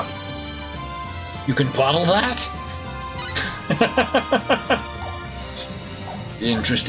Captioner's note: laughs